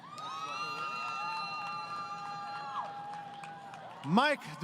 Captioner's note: crowd Cheering